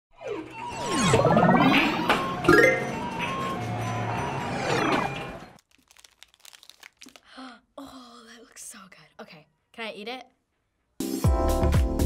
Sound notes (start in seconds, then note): 0.2 ambient arcade intro; 7.1 gasps; 11.0 upbeat music